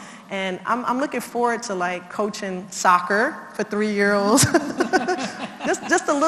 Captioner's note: laugh